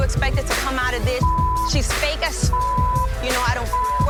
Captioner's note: beep